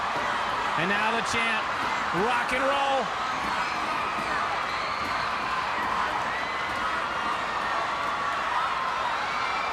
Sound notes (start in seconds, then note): 3.3 audience clamoring